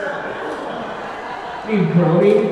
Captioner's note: audience groaning